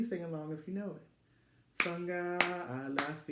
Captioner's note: begins clapping